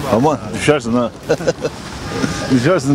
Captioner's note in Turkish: Gülme sesi